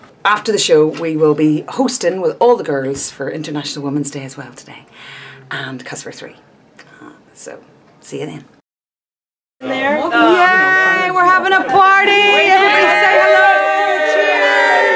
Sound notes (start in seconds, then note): 9.6 all cheering